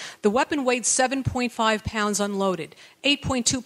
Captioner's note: none